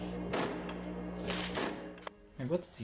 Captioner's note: script rustles